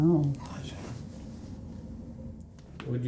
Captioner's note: none